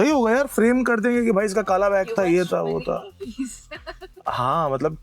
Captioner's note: laughter